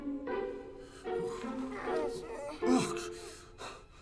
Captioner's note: whimpering